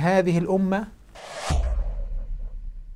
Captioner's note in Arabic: مُؤَثِّرَات صَوْتِيَّة